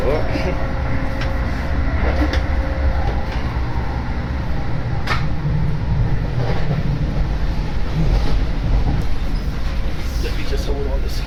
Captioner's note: wheels groaning as train enters sharp curve